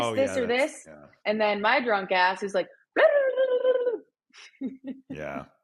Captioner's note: speaks gibberish